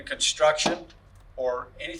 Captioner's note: banging sound